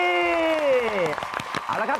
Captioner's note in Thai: เสียงปรบมือ